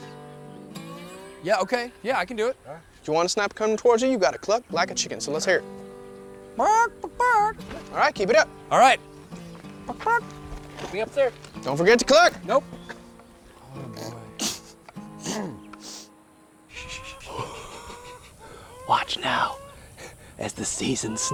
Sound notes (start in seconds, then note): 5.7 imitating chicken; 13.6 chuckles; 13.6 clears throat